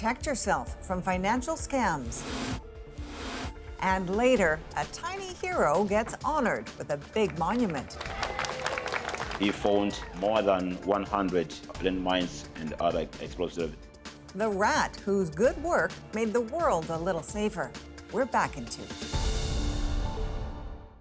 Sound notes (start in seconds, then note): 10.2 applause